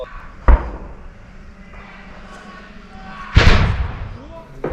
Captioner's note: distant yelling